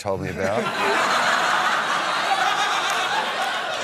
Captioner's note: laughter